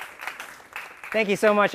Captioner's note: applause